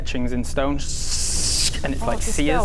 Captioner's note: sssssk!